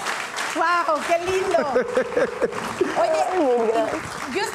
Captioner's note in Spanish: Ríe